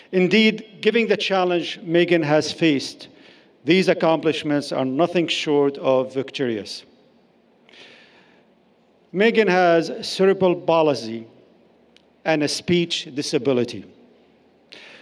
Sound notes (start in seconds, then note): none